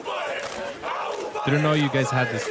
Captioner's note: screaming